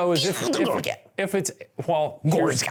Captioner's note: speaking nonsense words